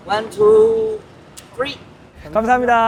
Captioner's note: click